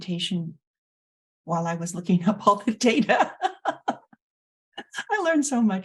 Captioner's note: laughing